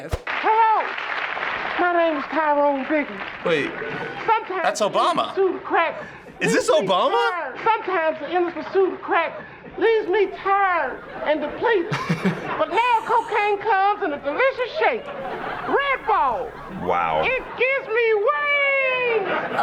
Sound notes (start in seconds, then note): 10.9 chuckles